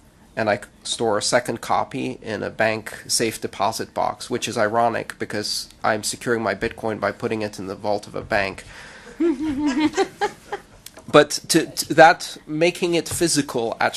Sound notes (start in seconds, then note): 9.1 laughter